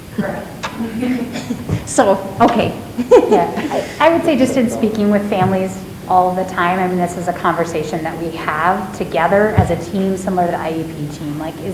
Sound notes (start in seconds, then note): 3.1 chuckles